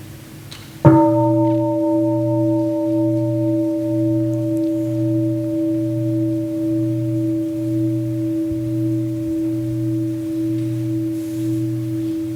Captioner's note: gong